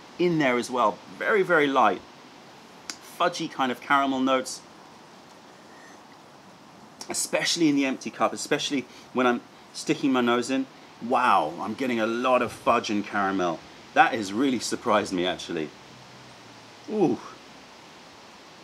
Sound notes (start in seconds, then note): 5.2 sips tea